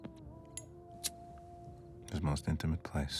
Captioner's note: lighter clicking